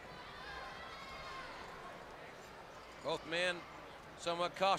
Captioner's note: crowd chatter